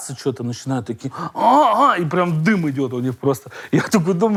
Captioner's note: groans